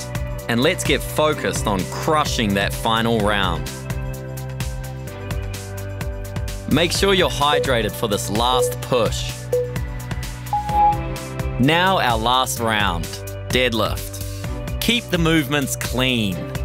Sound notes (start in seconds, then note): 10.5 timer beeping